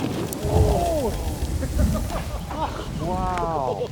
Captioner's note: group cheering and laughing